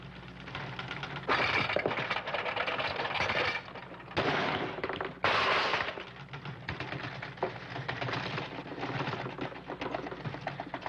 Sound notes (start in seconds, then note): 4.3 metal clanging; 5.2 typewriter banging